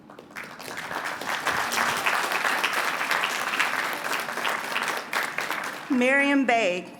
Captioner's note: applause